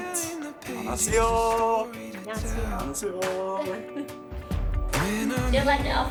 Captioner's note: speaking Korean